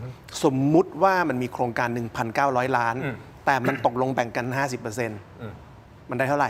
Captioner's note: clears throat